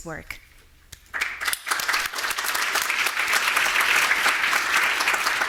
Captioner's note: audience applauding